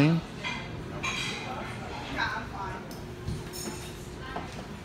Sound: customer chatter

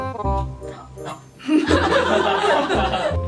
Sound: audience laughs

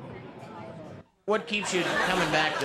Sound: crowd laughs

